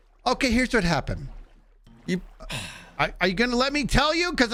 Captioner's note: sigh